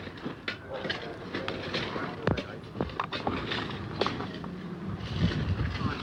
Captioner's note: indistinct chatter